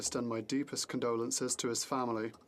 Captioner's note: speaking in French